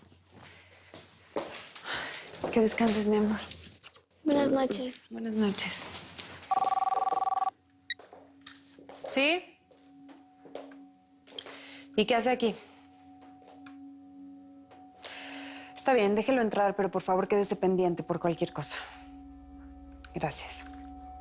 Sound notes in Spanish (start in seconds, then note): 6.4 Suena el teléfono